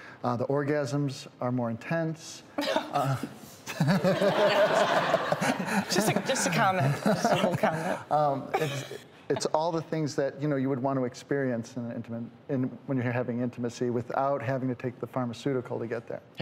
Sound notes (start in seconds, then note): 2.6 laughs; 3.7 audience laughing